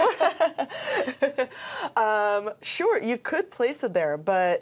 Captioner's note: both laughing